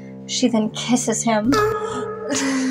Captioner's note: whimsical Moan; both Snicker